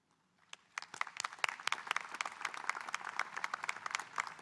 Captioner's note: audience applauding